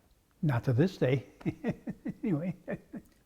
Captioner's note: laugh